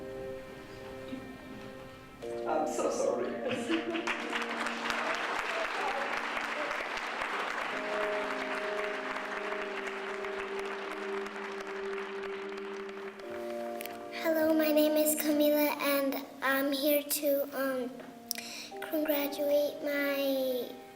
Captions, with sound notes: I'm so sorry. (clapping) (sentimental music) - Hello my name is Camilla and I'm here to congratulate my grandpa,